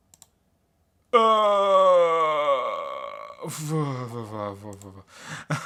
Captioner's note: groans anxiously